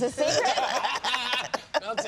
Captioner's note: laughing